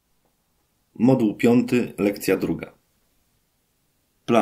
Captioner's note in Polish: Głos męski z offu, audiodeskrypcja planszy